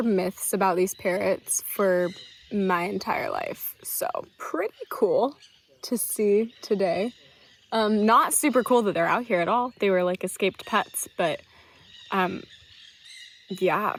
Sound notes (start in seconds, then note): 7.5 birds chirping